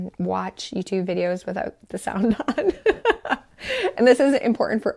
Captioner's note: laughs